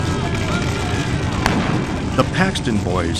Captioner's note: gun fires